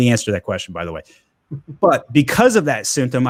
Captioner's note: chuckles